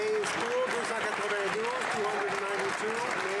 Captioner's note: applause